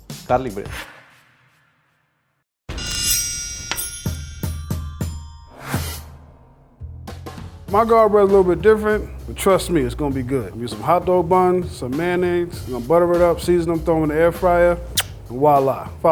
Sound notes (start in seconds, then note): 2.8 metal unsheathing; 3.6 bright music